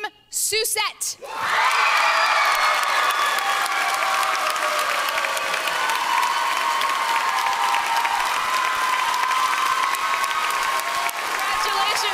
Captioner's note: cheering and applause